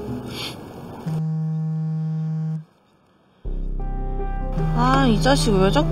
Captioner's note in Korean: 휴대폰 진동